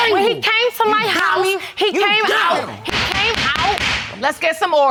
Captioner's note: gavel banging